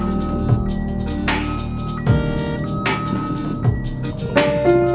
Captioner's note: car alarm blaring